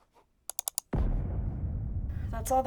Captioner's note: mouse clicks